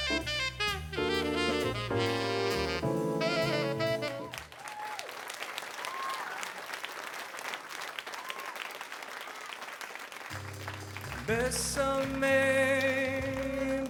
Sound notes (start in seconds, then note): 0.0 saxophone solo; 3.2 crowd cheering